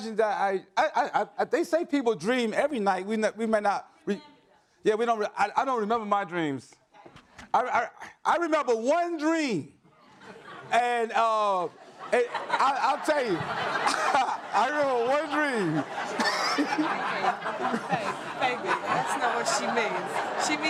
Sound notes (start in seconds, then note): 11.1 audience laughs; 16.0 laughs